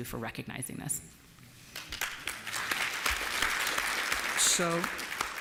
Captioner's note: applause